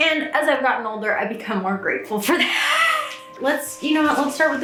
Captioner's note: laughs